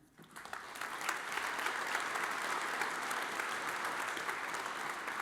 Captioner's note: audience applauds